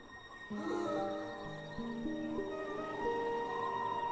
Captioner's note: gasping